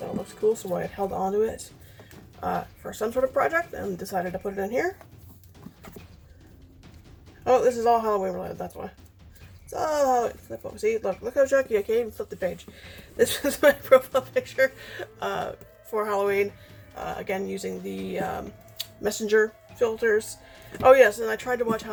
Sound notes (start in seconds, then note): 13.0 laughing